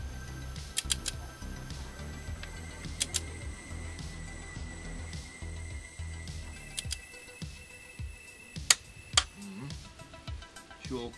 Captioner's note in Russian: слышен треск ключа при затяжке болта